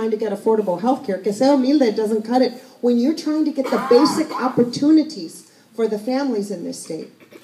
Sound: Spanish

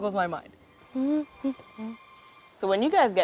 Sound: hums

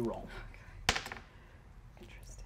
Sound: dice tap table

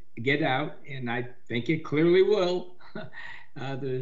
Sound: chuckles

